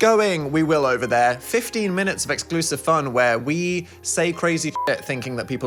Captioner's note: beep